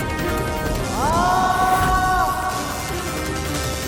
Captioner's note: screams